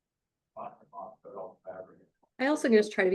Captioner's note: indistinct conversation